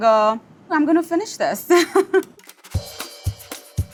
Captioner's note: laughs; up-tempo percussive jazzy music